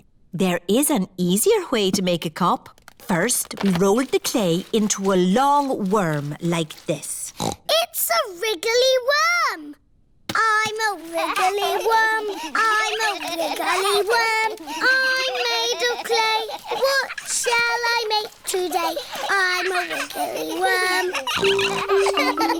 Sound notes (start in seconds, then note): 7.3 snorts; 13.8 all laughing; 19.6 snorts